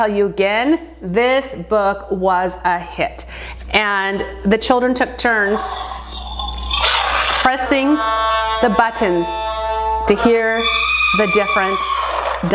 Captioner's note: dinosaur noise